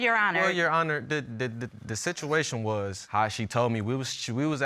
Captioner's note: stammers